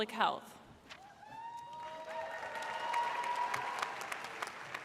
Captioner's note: audience cheers